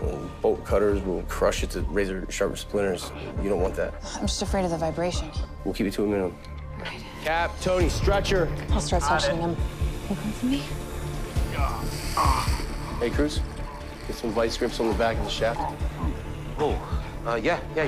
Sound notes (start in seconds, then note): 11.4 groaning